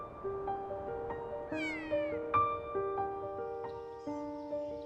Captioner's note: Kea call